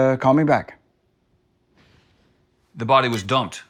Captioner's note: phone beeps